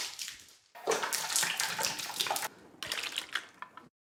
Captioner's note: puree squelches